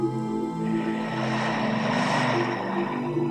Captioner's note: exhales